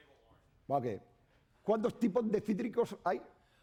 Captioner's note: speaking spanish